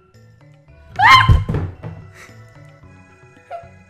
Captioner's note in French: cri